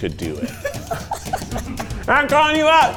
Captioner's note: crew laughs